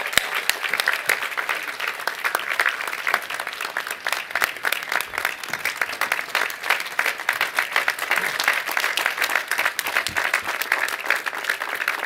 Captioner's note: applause